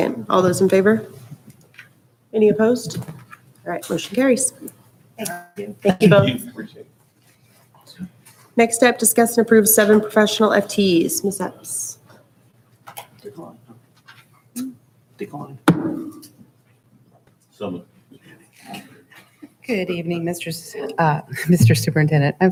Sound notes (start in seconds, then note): 13.2 hushed speaking; 13.2 light pounding on desk